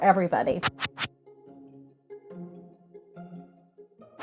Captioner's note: text whooshes